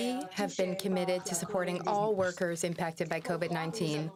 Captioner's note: speaking French